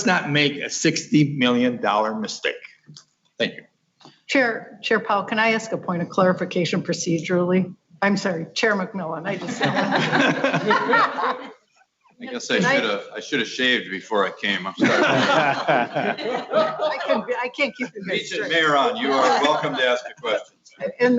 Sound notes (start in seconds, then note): 11.0 laughter